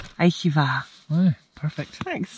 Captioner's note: speaks foreign language